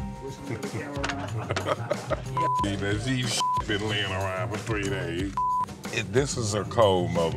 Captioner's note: laugh